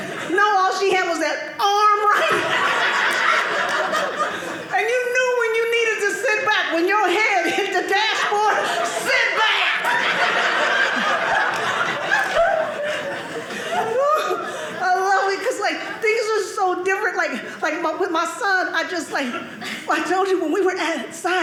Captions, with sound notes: No, all she had was that arm. Right? (audience laughing) And you knew when you needed to sit back when your head hit the dashboard. Sit back! (audience laughing) Woo! I love it because things are so different. With my son, I just-- I told you, when we were outside,